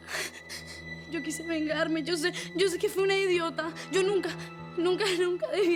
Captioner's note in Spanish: Sollozos